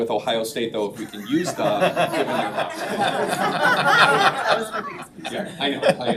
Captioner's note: all laughing